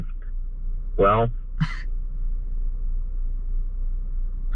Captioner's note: chuckles